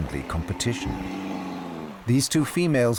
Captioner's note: snarling